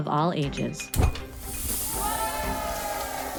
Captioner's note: air whooshing; people cheering